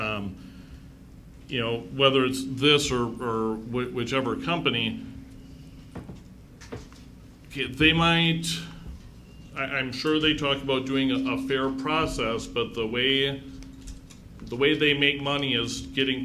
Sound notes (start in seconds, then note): none